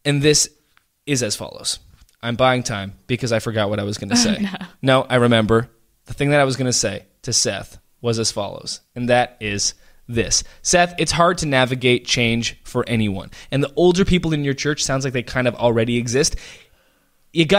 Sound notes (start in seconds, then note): 4.1 laughs